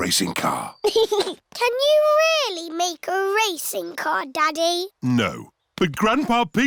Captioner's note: chuckles